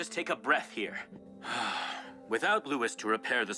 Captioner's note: Jonathon gasps